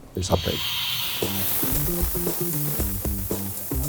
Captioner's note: sound of sprinkler